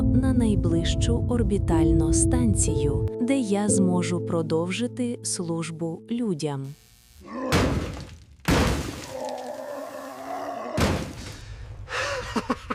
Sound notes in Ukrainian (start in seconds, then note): 7.4 звуки ударів; 11.9 злий сміх